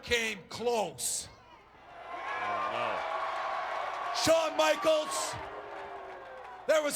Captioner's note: applause